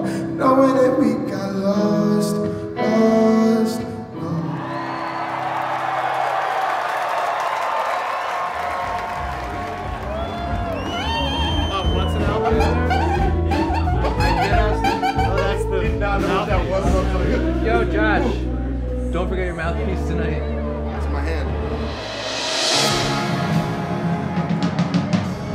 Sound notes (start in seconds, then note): 4.4 cheering; 11.8 mouthpiece honking; 22.8 relaxed music